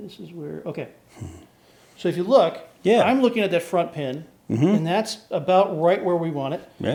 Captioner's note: none